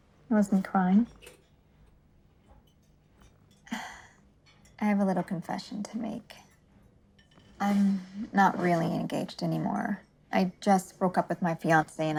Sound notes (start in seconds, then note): 3.4 sigh